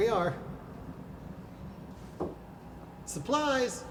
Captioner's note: taps the door